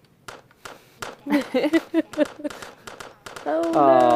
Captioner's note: laughter